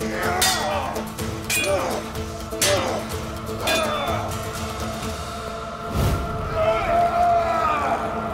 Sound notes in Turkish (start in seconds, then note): 0.7 Kılıç sesleri; 8.0 Müzik - Aksiyon